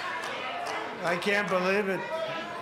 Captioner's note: applause